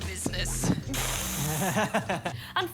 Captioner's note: laughs